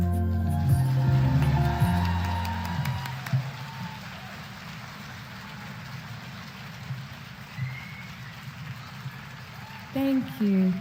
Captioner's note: applause